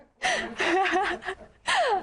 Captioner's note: laughter from group